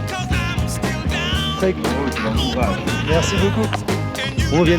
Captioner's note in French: rire